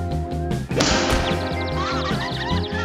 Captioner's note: birds chirping